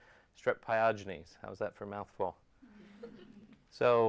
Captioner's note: audience laughs